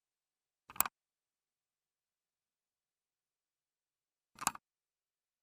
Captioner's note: mouse clicking